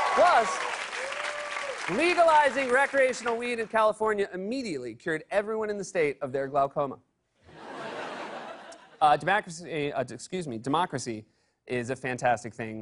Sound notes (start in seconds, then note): 0.0 cheers and applause; 7.5 laughter